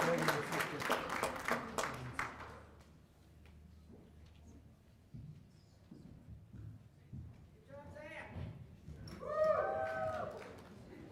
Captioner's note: cheers and applause